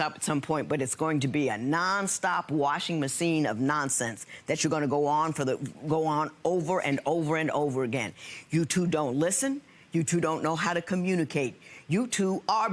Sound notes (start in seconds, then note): none